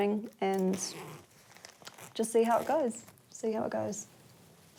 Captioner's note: zip whizzes